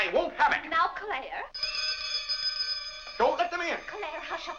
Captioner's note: bell rings